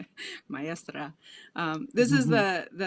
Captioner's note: laughs; speaking a foreign language; laughs